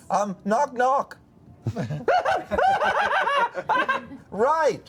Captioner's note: maniacal laughter